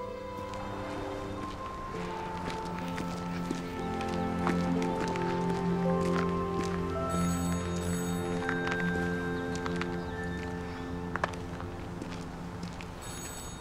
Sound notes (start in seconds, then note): 7.2 phone ringing